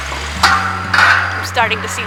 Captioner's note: metal clanging